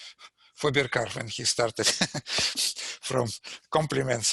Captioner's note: laughs